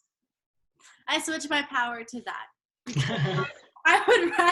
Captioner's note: laughs